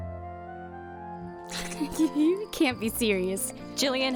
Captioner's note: chuckles